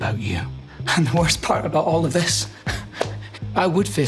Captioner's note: chuckles